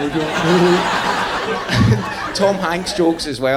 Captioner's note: audience laughing